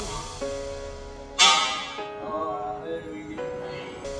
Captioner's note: clang